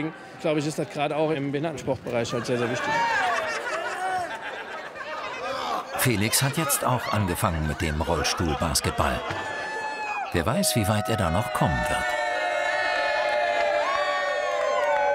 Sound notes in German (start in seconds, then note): 12.4 Jubel